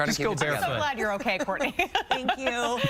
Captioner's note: laughter